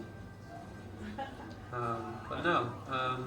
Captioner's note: woman chuckles